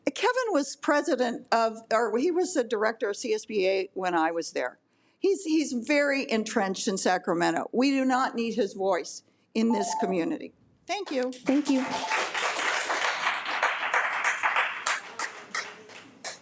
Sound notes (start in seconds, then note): 11.4 audience applauds